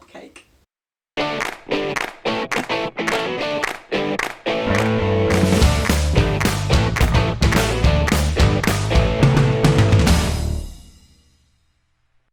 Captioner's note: claps